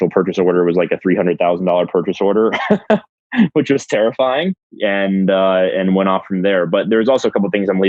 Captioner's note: laughs